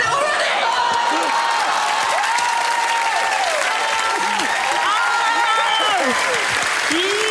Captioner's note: applause